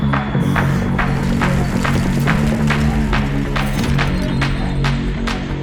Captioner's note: upbeat music; ground rumbling